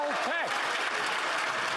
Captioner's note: some Applause